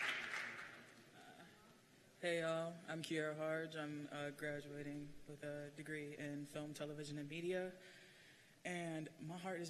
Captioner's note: cheers and applause